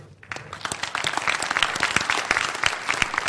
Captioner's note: applause